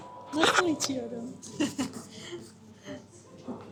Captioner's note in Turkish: ahaha